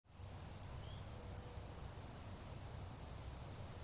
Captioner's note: chirping